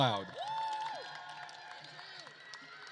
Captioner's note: attendees cheering and applauding